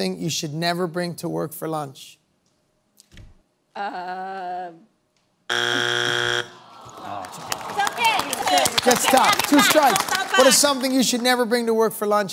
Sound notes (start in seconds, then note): 5.5 buzzer sounds; 8.1 audience groans